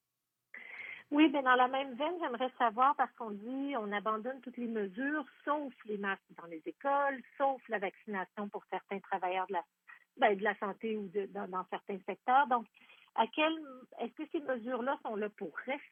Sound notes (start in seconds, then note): 4.1 speaking French